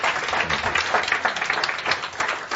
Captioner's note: audience applause